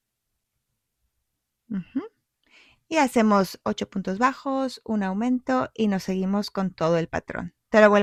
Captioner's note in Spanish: carraspeo